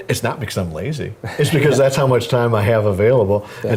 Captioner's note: laugh